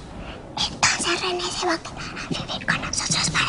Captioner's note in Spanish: Susurra